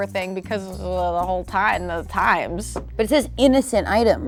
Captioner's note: stammers